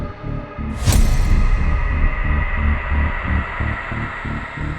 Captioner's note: image crashing